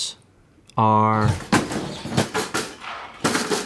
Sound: metal clanking noises

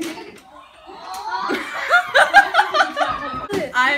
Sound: burst of laughter

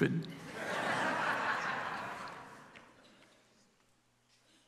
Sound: congregation laughs

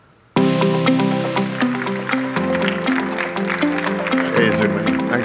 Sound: applause

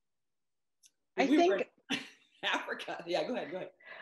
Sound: laughs

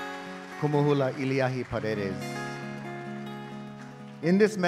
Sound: speaking in Hawaiian

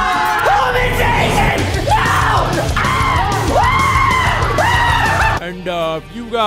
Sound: excessive screaming

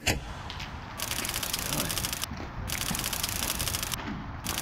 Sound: typewriter clicking

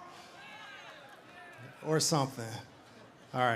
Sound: audience cheering

